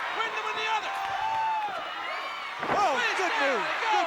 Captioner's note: applause